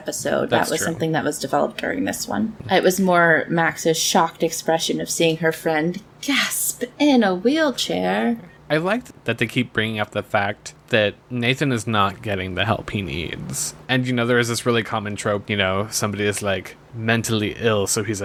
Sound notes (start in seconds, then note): 6.5 gasp!